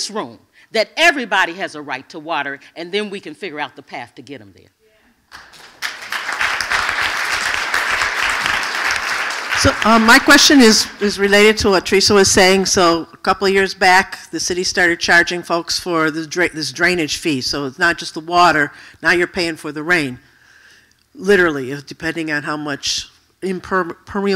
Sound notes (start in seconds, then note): 10.1 applause